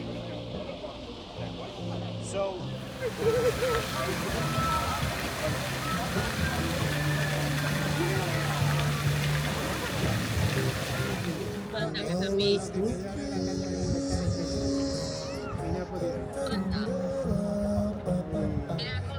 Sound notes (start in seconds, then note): 5.5 people laughing; 7.4 speaking in foreign language